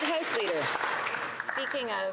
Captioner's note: some Applause